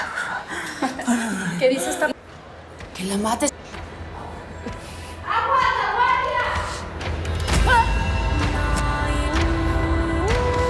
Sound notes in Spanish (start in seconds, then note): 2.5 Grito